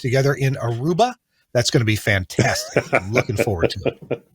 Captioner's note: laughs